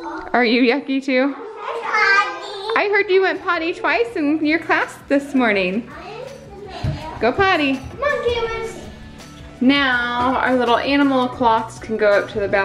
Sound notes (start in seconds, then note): 1.2 children chatter; 5.8 children chatter